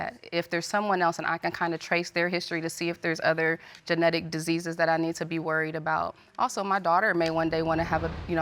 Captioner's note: none